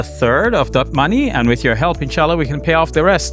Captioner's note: speaks Arabic